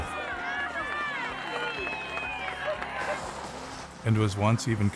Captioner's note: bağıran ve alkışlayan insanlar